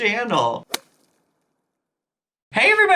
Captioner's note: thud